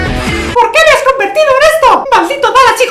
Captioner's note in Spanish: Voz de Mickey